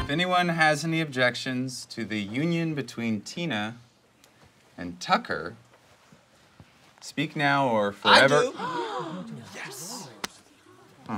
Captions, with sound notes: - If anyone has any objections to the union between Tina and Tucker, speak now or forever-- - I do! (group gasps) - Yes.